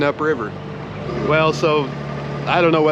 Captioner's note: boat engine running